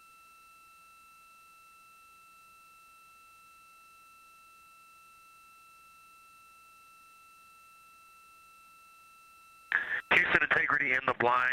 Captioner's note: silence